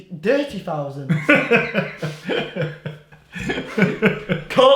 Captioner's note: laughing